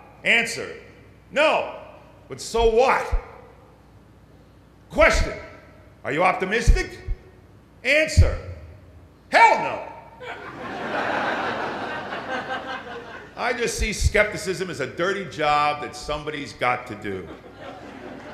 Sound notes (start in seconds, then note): 10.2 laughter